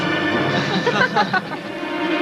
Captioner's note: audience laughing